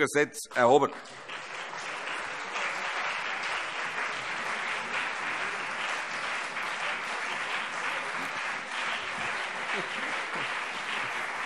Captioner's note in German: Lang anhaltender Beifall CDU und BÜNDNIS 90/DIE GRÜNEN